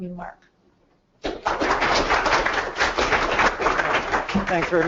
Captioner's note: clapping